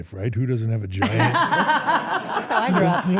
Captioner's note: everyone laughs